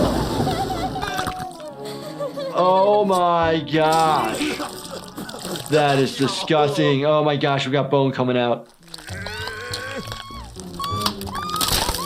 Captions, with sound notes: Oh my gosh! - That is disgusting. (Pop groaning) Oh my gosh, we got bone coming out. (Cub screaming)